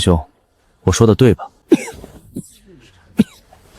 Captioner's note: cough, cough, cough